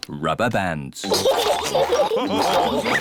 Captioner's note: all laugh